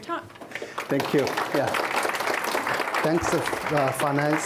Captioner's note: audience clapping